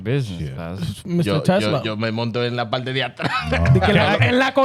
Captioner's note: speaking In Foreign Language